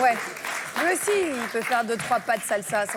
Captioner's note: applause